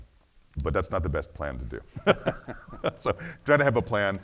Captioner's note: laughs